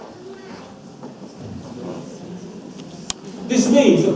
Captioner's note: audience murmurs